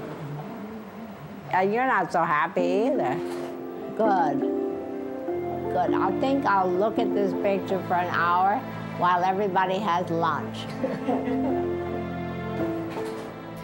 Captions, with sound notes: Ah, you're not so happy either. Good. Good. I think I'll look at this picture for an hour while everybody has lunch. [laughs] [sentimental music]